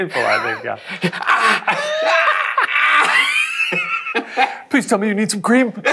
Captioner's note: screams